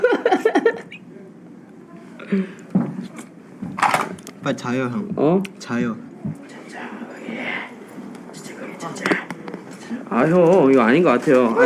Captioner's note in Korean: 웃음